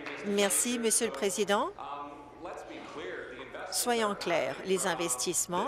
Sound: applause

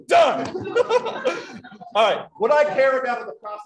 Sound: laughs

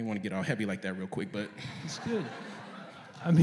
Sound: laughter

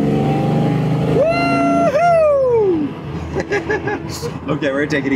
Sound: chuckles

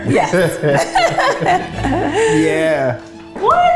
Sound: laugh

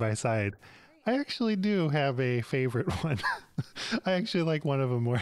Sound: laughs

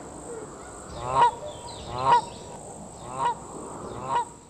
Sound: geese honking

